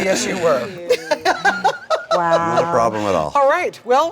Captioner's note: laughing